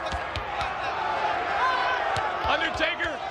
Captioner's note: audience chanting